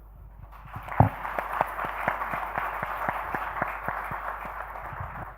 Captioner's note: audience applauding